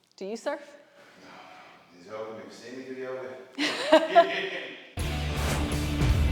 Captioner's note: laugh